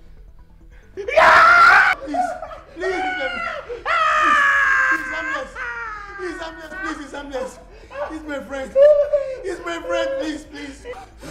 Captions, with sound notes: Please [Screams] He is harmless, please, he is harmless. He is my friends, he is my friend please, please.